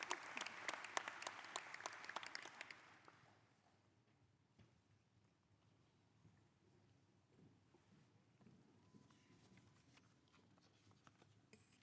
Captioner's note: applause